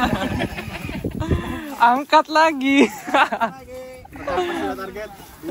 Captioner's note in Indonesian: Tertawa